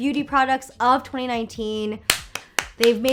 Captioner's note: applauding